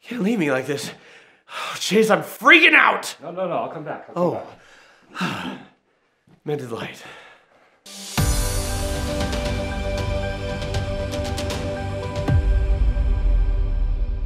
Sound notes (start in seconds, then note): 0.9 gasps; 4.2 sighs; 7.9 upbeat music